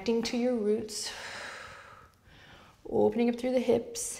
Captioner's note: exhales